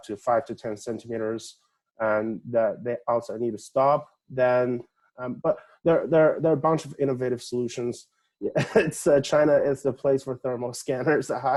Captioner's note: laughing